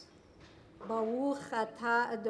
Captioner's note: speaking in Foreign Language